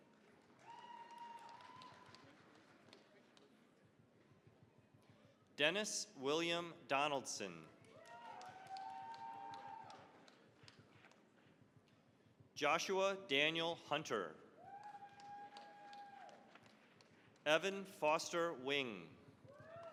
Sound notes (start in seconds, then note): 0.0 cheering, applause; 7.8 cheering, applause; 14.6 cheering, applause; 19.4 cheering, applause